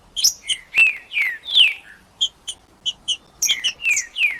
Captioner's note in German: trinca ferro cantando